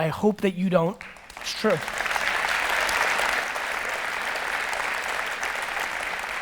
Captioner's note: audience applause